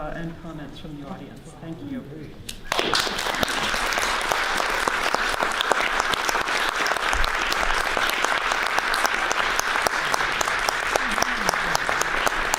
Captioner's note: audience claps